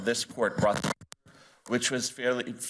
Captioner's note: audio glitching